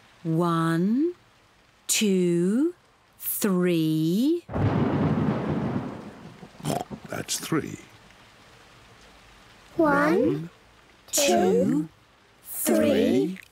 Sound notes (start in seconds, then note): 4.4 thunder rumbles; 6.3 oinks